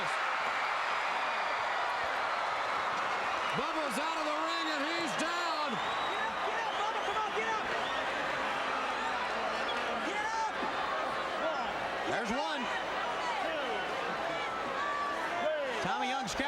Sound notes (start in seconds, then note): 12.6 crowd chattering